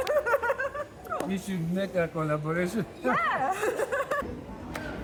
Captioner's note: laughing; laughing